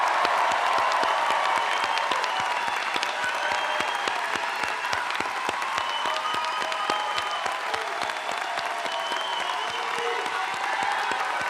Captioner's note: applause